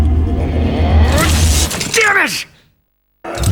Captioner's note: growls